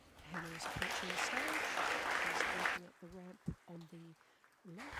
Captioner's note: applause